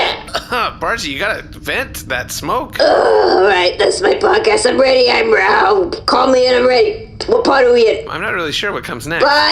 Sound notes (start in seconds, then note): 0.0 hacking; 3.7 blearily